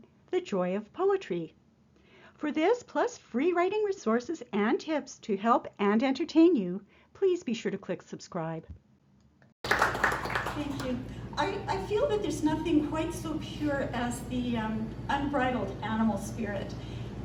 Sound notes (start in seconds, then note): 9.6 applause